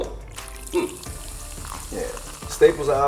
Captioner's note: soda fizzing